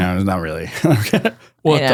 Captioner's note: laughs